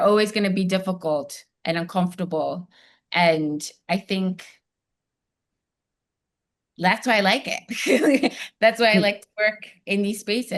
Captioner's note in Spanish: risas